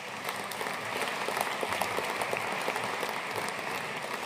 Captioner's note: audience applauding